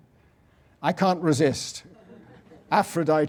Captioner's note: laugh